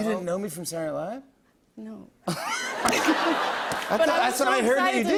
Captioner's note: laughter